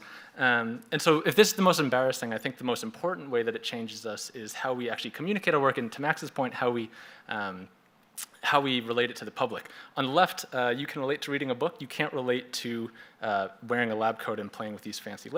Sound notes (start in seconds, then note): none